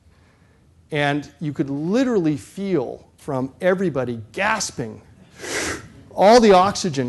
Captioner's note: gasps